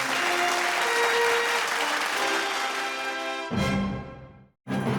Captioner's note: crowd clapping; orchestrated music